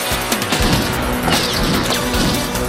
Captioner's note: gunshots